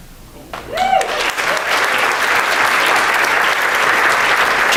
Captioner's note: wooing and applause